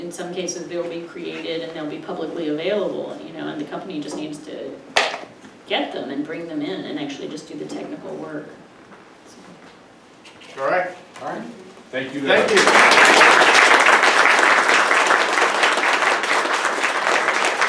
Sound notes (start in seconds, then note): 14.0 audience clapping